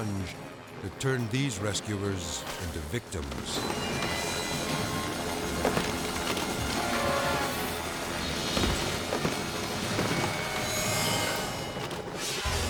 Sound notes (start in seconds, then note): 3.8 bodies thudding; 3.8 helicopter droning